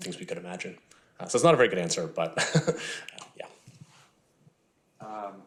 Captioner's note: chuckling